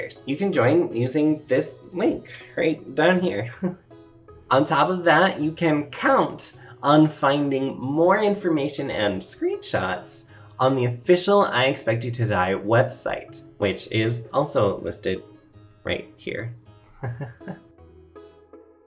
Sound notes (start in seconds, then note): 3.9 laughs; 17.0 laughs